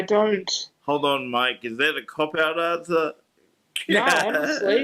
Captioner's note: laughs